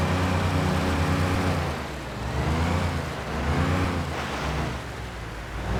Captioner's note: engine revving